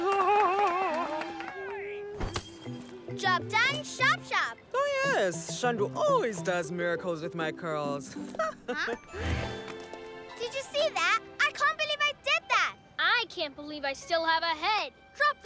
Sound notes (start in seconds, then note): 2.5 humming; 8.2 chuckles